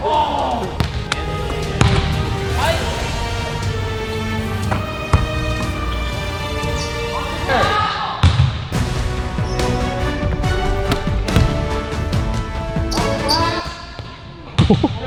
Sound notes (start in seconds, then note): 0.6 ball bounces; 3.7 upbeat orchestral music; 8.7 upbeat orchestral music; 10.2 ball bounces